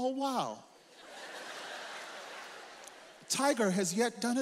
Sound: audience laughs

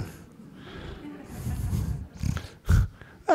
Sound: laughter

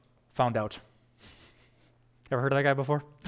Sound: pastor: Laughter

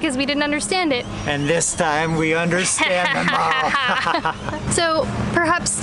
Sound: evil laughter

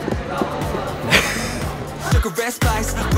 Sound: haha!

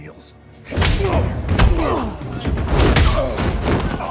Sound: grunting noises

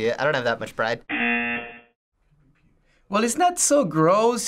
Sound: buzzer rings

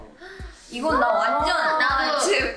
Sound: speaking in Korean

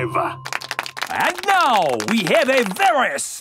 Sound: applauding

